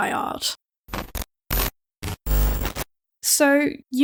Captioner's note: glitching sounds